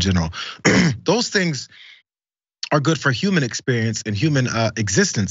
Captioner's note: cough